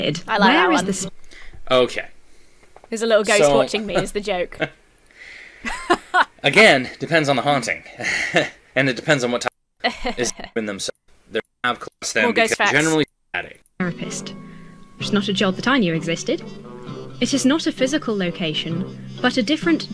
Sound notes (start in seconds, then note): 3.7 chuckles; 5.6 laughs haughtily; 8.0 laughs loftily; 9.8 laughs condescendingly